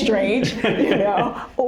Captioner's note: laughter